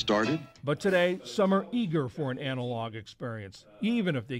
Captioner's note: voice-over